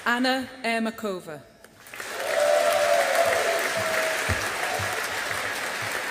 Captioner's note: audience applauding